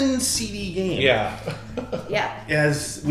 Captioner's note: chuckles